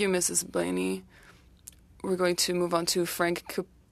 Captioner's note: speaking French